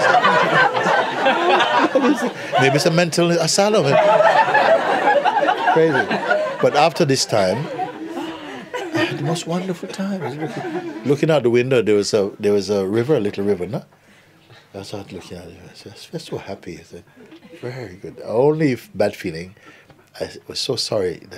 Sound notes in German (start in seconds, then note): 0.0 Lachen; 5.6 Lachen